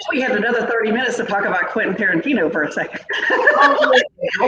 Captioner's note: laughs